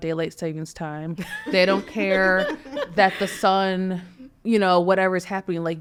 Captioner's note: people laughing